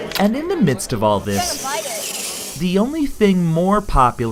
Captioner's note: robot wheels whirl